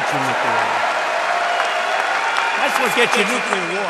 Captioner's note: applause